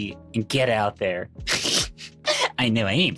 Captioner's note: snorting